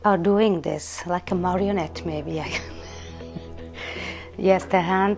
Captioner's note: laughing